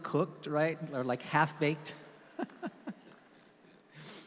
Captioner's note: laughs